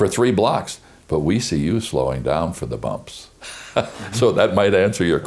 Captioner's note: laughs